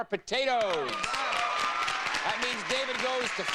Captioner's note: audience applauding